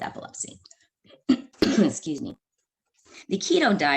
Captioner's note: clears Throat